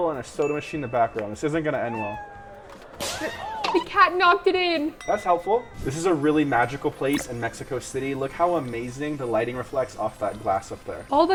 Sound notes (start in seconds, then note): 1.8 cat meows; 4.8 bell rings